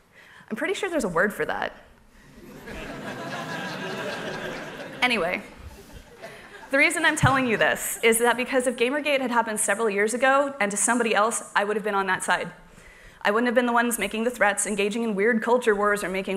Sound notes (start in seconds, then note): 2.3 laughter